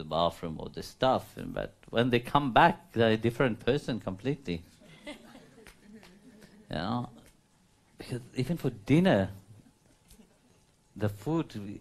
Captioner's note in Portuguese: risos